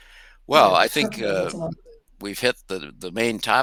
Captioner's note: faintly speaking